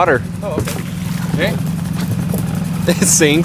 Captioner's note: water splashing; people laughing